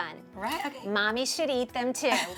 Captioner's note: laughter